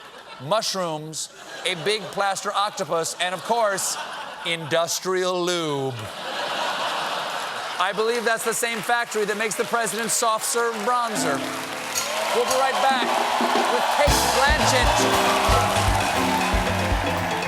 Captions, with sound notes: BULBS, MUSHROOMS, A BIG PLASTER OCTOPUS, AND, OF COURSE, INDUSTRIAL LUBE. ( LAUGHTER ) I BELIEVE THAT'S THE FACTORY THAT MAKES THE PRESIDENT'S SOFT SERVE BRONZER. WE'LL BE RIGHT BACK WITH CATE BLANCHETT. ( CHEERS AND APPLAUSE ) ( BAND PLAYING )